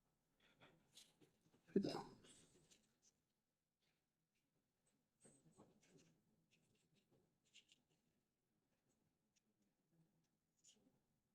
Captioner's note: silence